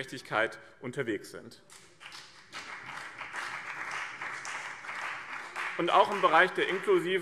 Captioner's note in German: Beifall BÜNDNIS 90/DIE GRÜNEN und vereinzelt CDU